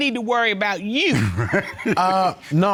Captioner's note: laughing